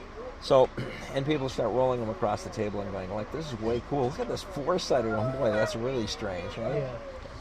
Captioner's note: clears throat